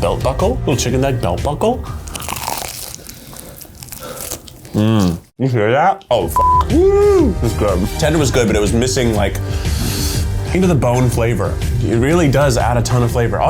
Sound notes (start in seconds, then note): 2.0 crunching; 6.3 beep